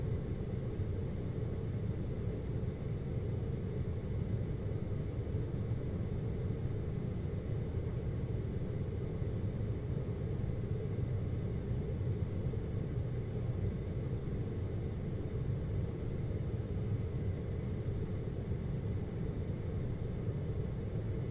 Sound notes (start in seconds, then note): 17.6 air conditioning